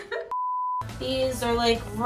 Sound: beeps

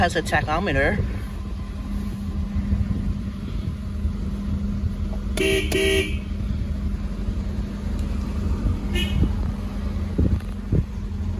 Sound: honks horn

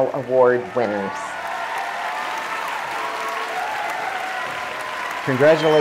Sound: applause

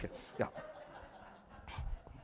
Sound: laughter

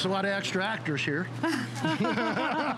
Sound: laughter

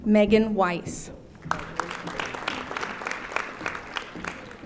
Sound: audience applauding

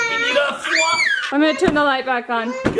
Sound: children exclaiming; pillow thudding

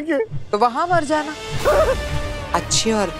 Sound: shouting

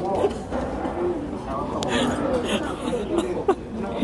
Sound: can't help but too laugh

